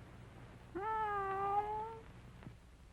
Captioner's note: cat meows